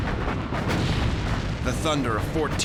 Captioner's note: explosions; gunfire